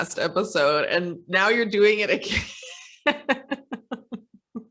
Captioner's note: laughs